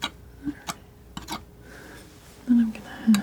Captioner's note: scratching